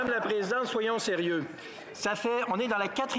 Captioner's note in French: voix de l'interprète